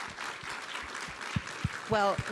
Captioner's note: applause